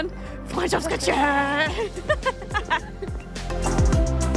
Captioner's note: laughter